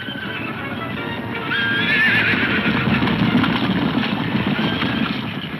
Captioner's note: horses neighing; hooves thundering